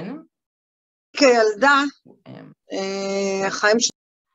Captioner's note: non-english speech